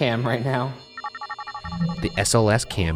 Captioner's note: device chiming